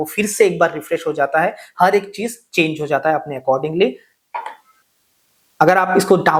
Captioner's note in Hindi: गला साफ़ करने की आवाज़